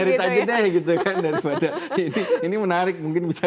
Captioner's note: laughs